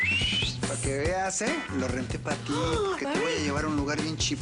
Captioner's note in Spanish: Silbido